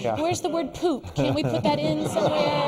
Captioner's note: laughs